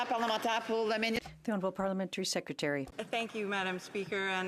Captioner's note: some Applause